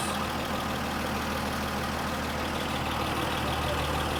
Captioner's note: truck idling